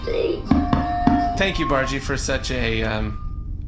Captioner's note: loud microphone feedback